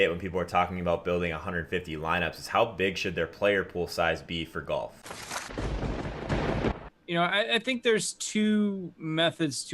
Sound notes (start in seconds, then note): 5.5 thunder cracking